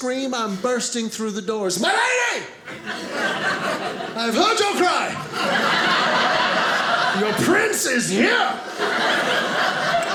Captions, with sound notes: I'm bursting through the doors. My lady! (audience laughing) I have heard your cry! (audience laughing) Your prince is here!